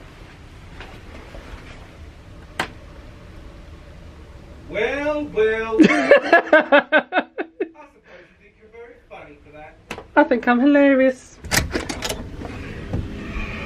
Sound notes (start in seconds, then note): 2.6 light switch clicks; 5.7 laughing